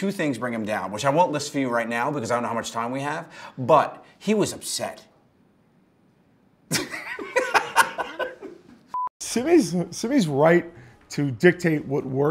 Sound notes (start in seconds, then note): 6.7 laughs